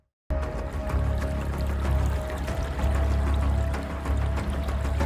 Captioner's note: edgy music; stream burbling